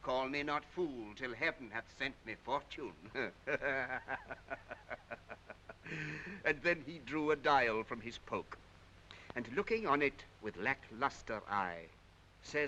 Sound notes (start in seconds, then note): 3.1 laughing